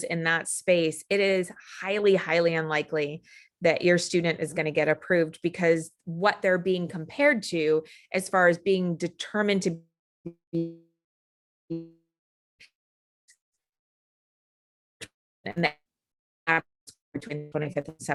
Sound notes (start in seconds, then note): 13.1 audio cutting out